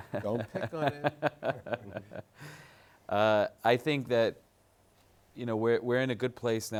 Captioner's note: laughs